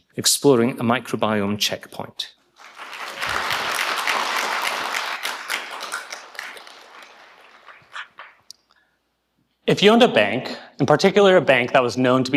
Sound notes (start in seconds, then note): 2.4 people clapping